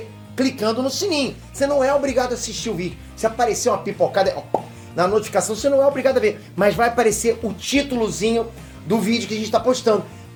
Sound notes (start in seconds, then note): 4.5 pop